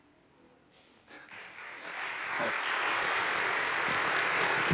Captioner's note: audience applauding